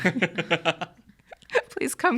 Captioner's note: laughing; laughs